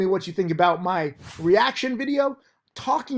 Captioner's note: air whooshes